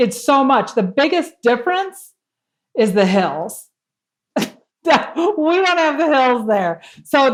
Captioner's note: laugh